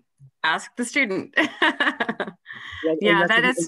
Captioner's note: laughter